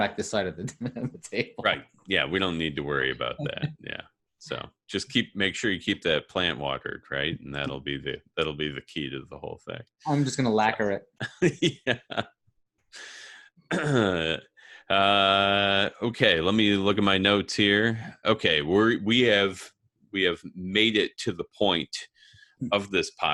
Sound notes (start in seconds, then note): 11.2 laughs